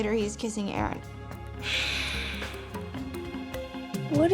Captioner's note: sighs